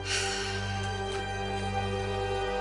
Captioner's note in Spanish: Regina exhala